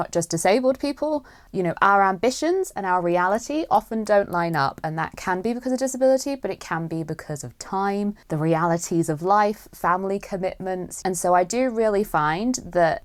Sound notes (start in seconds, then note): none